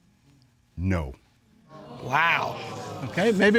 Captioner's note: audience exclaims